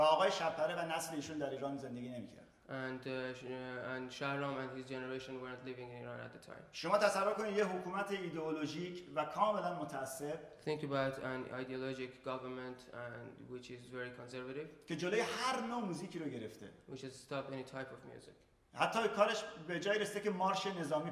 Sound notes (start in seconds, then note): 0.1 speaking in farsi; 7.0 speaking in farsi; 14.8 speaking in farsi; 19.0 speaking in farsi